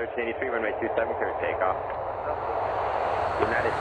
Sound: ATC in background

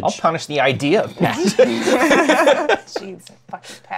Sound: laughter

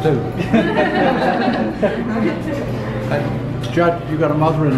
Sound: chuckling

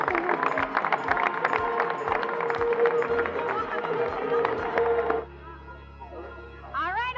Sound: crowd applauding

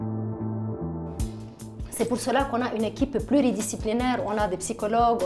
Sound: speaking French

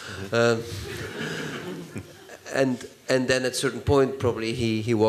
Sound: laughter

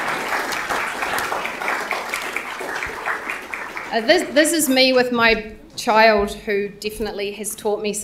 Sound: applause

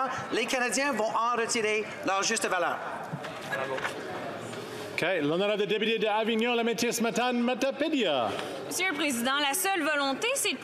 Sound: speaking French

